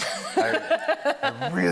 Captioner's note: laughing